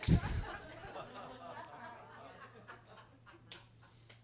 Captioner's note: attendees laughing